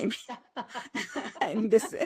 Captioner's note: laughter